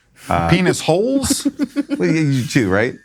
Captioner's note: giggling